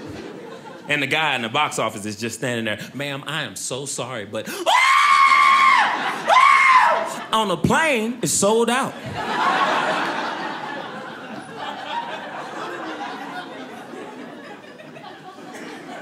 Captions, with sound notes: And the guy in the box office is just standing there, "Ma'am, I am so sorry but (screams) "On a Plane is sold out." (audience laughing)